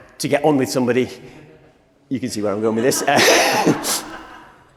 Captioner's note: laughter from audience